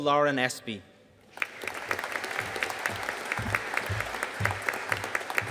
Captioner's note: audience applauding